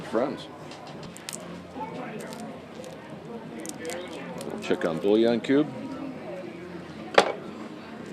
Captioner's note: unwrapping sound